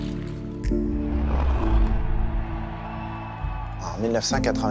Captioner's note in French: applaudissements